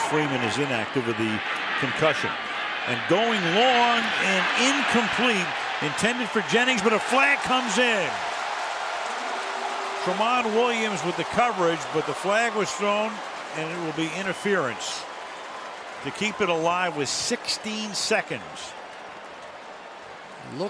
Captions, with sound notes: tonight because Freeman is inactive with the concussion. And going long and incomplete, intended for Jennings but a flag comes in. [cheering] Tramon Williams with the coverage. But the flag was thrown and it will be interference. They keep it alive with 16 seconds.